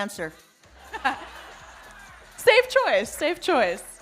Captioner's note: audience laughing